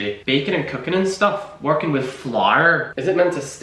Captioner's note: in an irish accent